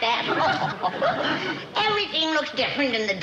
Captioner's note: laughs